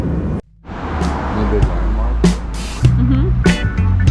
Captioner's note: background chat